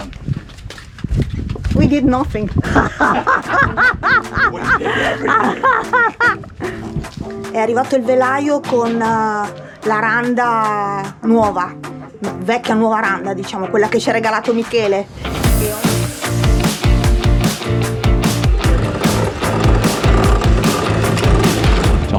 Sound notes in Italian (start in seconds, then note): 2.6 risate